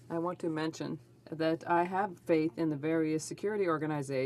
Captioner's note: speaking French